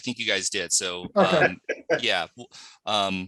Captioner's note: laughs